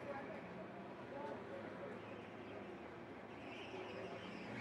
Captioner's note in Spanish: Sonidos del tránsito